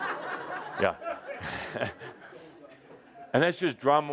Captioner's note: laughter, lots of hands are raised